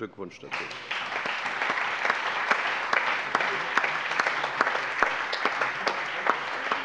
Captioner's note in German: Allgemeiner Beifall